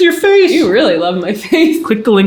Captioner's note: chuckling